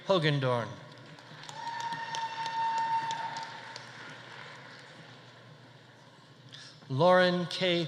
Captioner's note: audience applauding; audience cheering